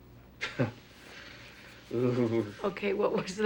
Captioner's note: chuckles; shuddering